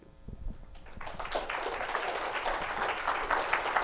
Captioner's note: applause